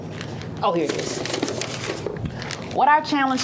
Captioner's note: box rustling